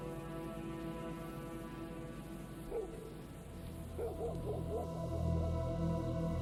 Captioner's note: dog barking; engine sizzling